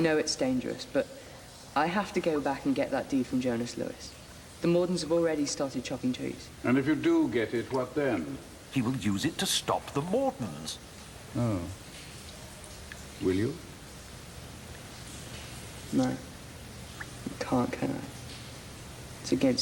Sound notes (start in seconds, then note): none